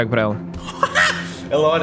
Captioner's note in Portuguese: risada